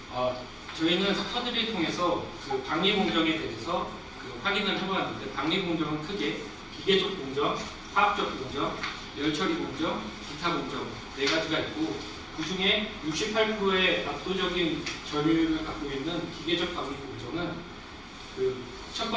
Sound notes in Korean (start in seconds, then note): none